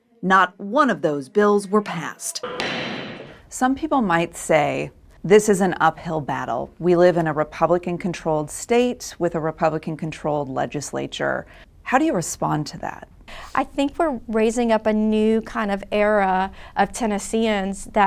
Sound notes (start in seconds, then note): 2.4 gavel thuds